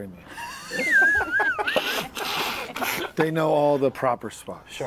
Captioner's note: laughter